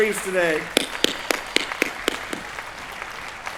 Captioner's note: applause